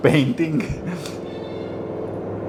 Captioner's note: laughs